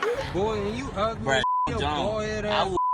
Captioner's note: cast laughs; beep